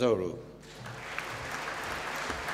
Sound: applause

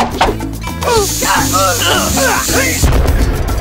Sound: grunting

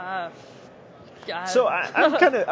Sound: laughs

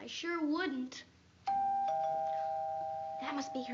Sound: doorbell rings

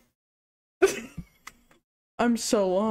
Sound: giggles

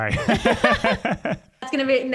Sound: laugh

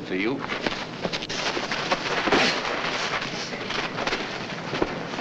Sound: men scuffling

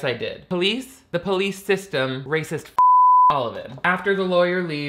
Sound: beep

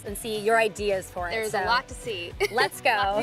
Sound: chuckles

